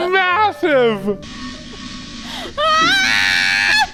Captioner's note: farting; laughing